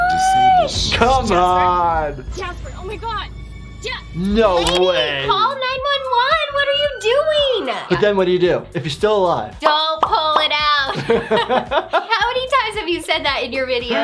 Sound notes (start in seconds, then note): 10.8 both laugh